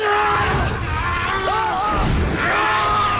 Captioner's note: both screaming